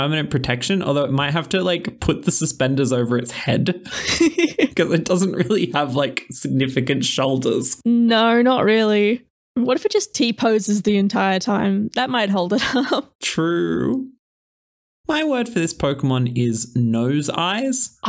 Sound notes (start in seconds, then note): 3.8 laugh